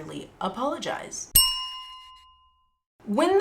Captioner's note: bell chime